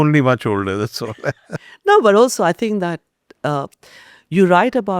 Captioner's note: laughs